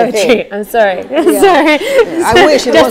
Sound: laughter

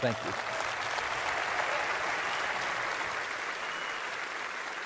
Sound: applause

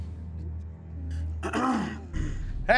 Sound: coughs

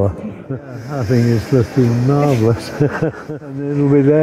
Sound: laughs

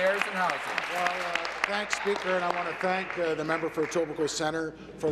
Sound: applause

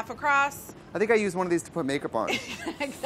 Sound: laughs

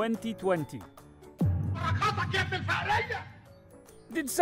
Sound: speaks foreign language

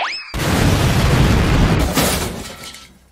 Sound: boom

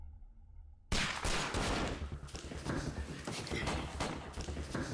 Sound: guns firing

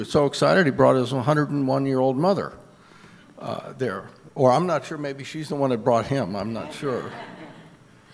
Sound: audience laughter

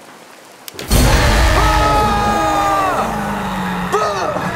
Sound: rain pouring; in game: screaming and roaring; screams loudly

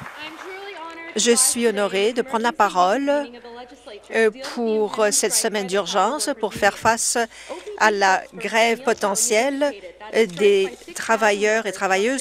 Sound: applause

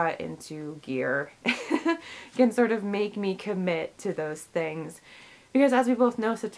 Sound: chuckles

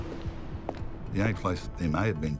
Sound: footsteps clacking

